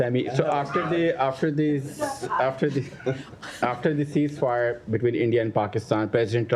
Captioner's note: laughter